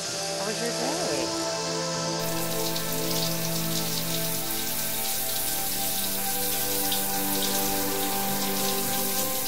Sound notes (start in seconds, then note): 2.3 shower trickling